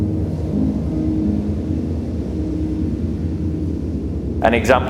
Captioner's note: strong gust of wind